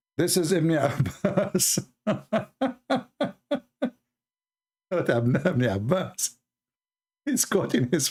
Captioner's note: Ketawa